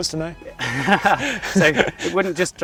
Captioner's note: both laughing